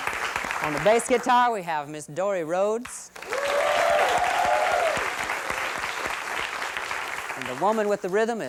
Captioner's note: applause; applause